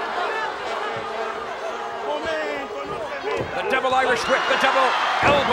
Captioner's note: applause